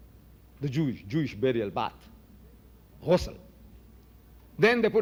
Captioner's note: in Arabic